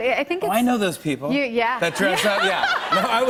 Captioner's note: laughter